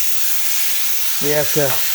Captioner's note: sizzling